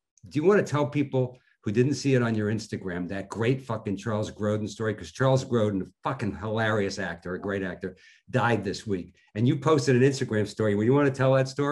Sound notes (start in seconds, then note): none